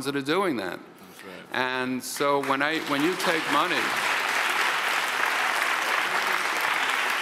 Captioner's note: audience applauds